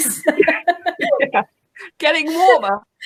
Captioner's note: laughing